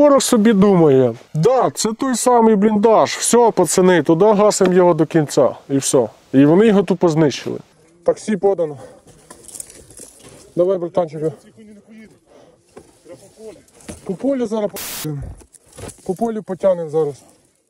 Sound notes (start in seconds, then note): 8.8 sound of rustling branches; 15.9 sound of rustling branches